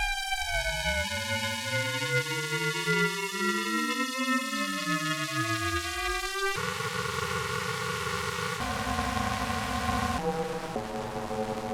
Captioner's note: evil ring mod sounds